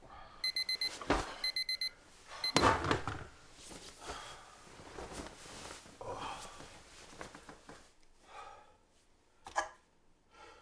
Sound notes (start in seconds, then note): 1.4 alarm turns off; 2.7 Spencer grunts